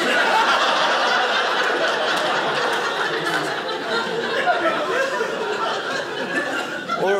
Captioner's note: audience laughing